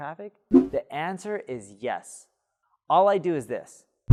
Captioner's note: air whooshing